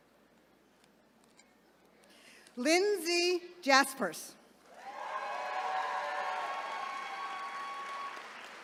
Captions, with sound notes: Lindsey Jasperse. (attendees cheering)